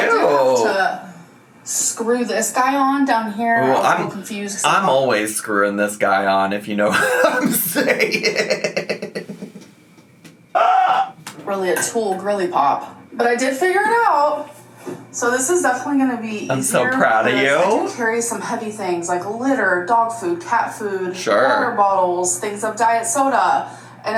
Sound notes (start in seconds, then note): 6.9 laughs